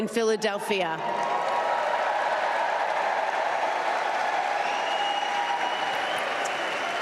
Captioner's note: applause